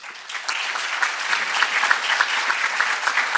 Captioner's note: applause